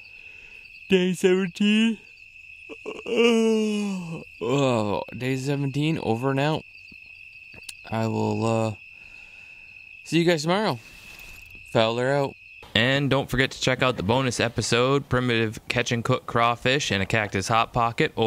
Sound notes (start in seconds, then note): 2.7 yawns loudly